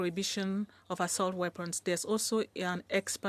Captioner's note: speaking French